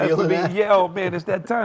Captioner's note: laughter